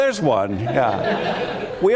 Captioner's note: laughter